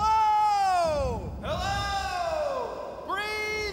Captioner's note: echoing